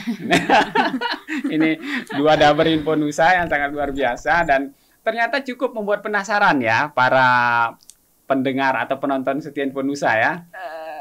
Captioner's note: laughs